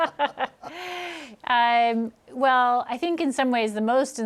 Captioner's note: laughs